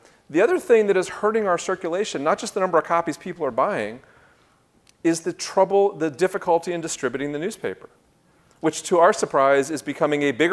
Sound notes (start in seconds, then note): none